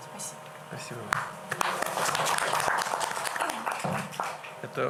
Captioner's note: applause